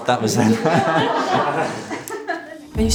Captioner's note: laughing